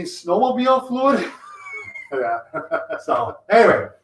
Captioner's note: laughing